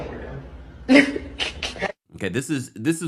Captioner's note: laughs